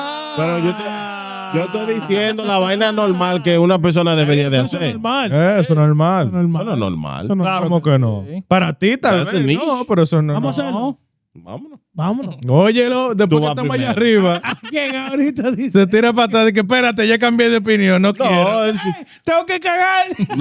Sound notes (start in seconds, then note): 1.5 speaking Foreign Language